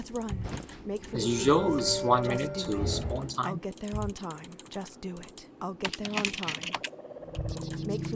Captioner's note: typing sounds